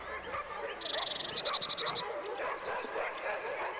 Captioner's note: dogs barking